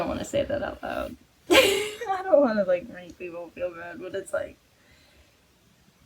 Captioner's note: laughs